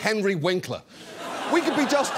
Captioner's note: audience laughs